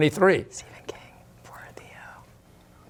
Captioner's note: whispering